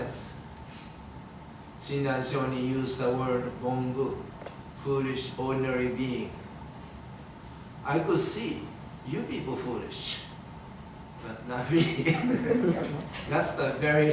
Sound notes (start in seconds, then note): 11.8 everyone laughing